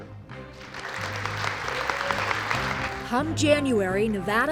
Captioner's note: applause